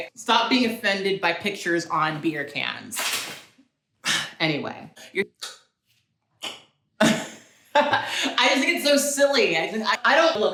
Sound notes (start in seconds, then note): 6.4 clicks tongue; 6.5 laughs